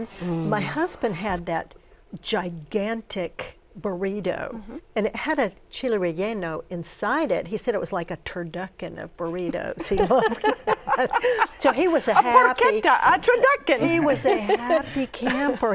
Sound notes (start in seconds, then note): 9.3 laughter